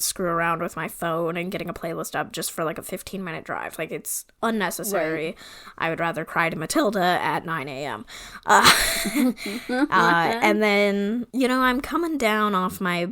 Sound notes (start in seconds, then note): 8.5 laughs